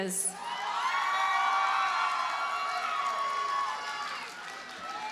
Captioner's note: audience cheers and applauds